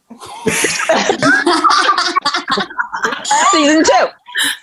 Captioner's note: everyone laughing